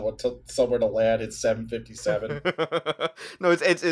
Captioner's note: laughter